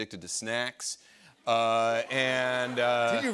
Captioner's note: laughter